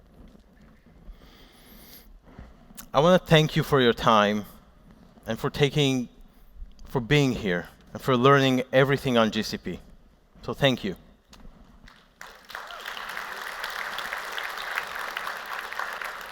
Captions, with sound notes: I want to thank you for your time and for taking-- for being here. And for learning everything on GCP. So thank you. [APPLAUSE]